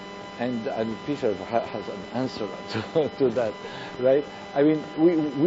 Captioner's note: chuckles